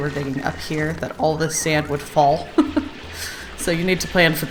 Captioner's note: laughs